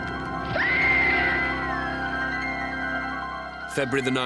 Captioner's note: woman screaming